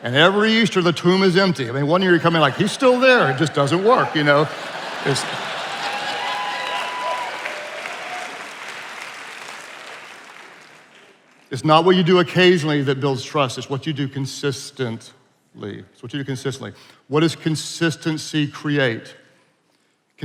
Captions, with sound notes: and every Easter the tomb is empty. I mean, one year you come in like "He's still there." It just doesn't work, you know? It's... (attendees laughing) (attendees applauding and cheering) it's not what you do occasionally that builds trust, it's what you do consistently. It's what you do consistently. What does consistency create?